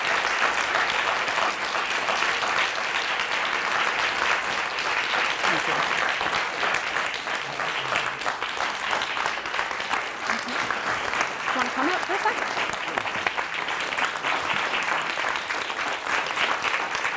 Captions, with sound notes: Do you want to come up for a sec? (audience applauding)